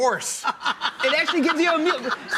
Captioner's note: laughing